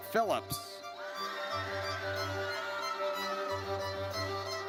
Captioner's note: audience cheers